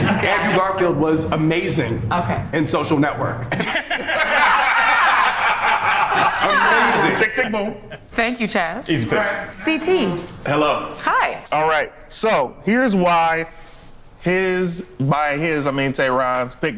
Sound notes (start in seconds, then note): 3.5 group members laughing